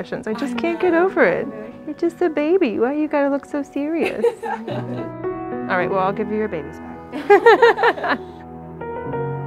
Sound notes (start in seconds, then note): 4.0 mother laughs; 8.2 laughs